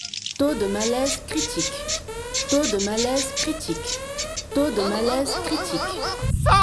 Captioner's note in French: bruit d'alarme